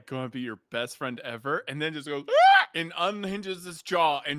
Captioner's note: screeches